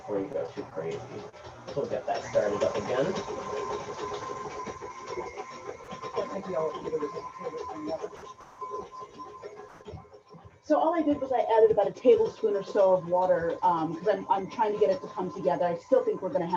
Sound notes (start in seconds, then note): 4.6 kitchen noises